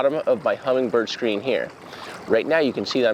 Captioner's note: water splashing